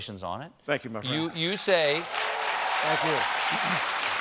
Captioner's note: applause